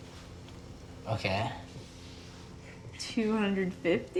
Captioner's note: French